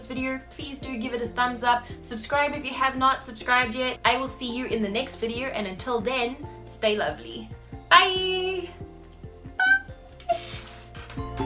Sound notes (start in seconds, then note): 9.6 chair creaks; 10.8 happy calm music